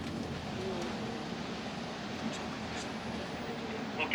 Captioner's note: tire running